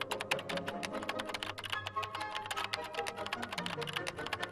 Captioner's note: tense upbeat music; keyboard clanking